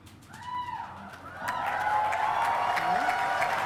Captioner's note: cheering